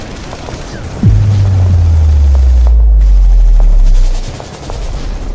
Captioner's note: boom resounds; guns blasting